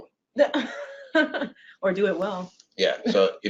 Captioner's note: laughs